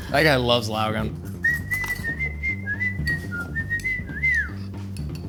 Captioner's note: whistling